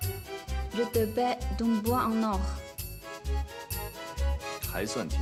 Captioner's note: French